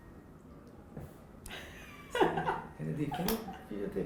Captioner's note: laughing